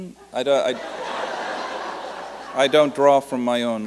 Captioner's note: laughter